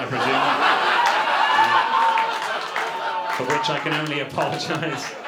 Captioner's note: audience laughter